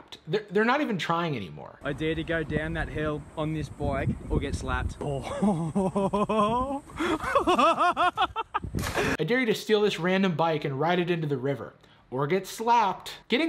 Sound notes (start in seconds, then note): 5.2 laughing